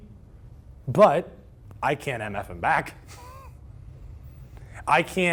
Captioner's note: laughs